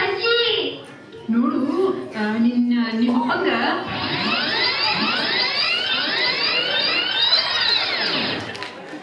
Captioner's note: tape rewind